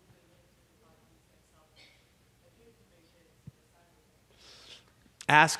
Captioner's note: person speaking off mic